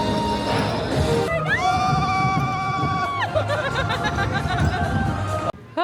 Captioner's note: screams and Giggles